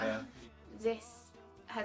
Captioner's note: laughing